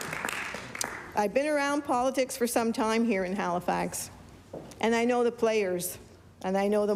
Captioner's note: applause